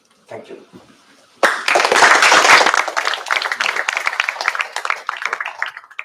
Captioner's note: applause